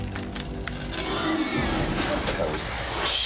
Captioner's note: entity screeching